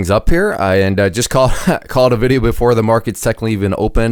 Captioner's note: giggles